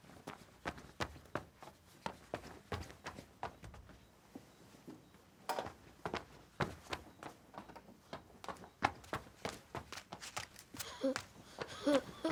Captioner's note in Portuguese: passos rápidos; risos de criança; passos rápidos